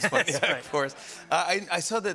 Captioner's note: laughter